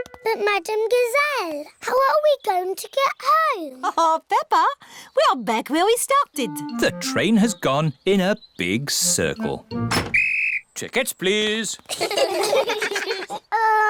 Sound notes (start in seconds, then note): 10.0 blows whistle; 11.9 all laugh